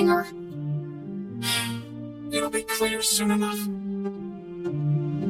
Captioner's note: sighs